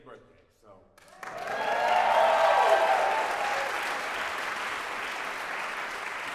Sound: audience Cheers

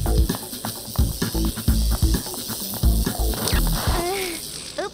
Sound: buzzing

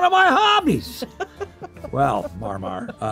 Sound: Heather chuckling

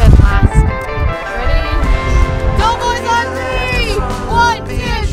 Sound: shouting

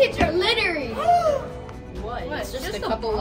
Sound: gasps

